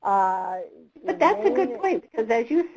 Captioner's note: voiceover